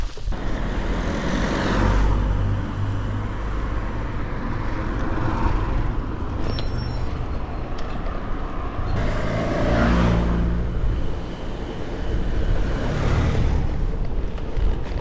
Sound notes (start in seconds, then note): 0.8 sound of traffic